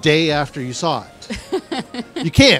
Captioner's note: laughs